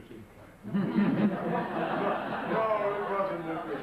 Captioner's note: audience laughs